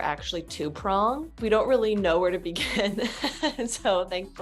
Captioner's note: chuckling